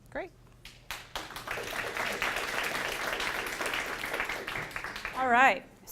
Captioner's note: applause